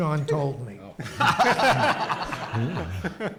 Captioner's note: audience laughs; laughs